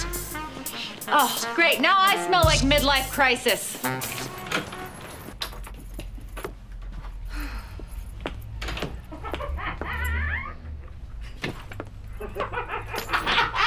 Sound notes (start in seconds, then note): 0.6 sniffing; 3.1 horn honks; 3.6 keys jingling; 7.2 sigh; 9.0 laughing; 10.2 laughter